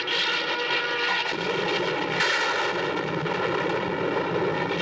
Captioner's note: thunder